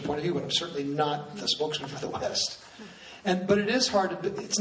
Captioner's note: laughs